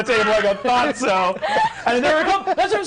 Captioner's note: all laughing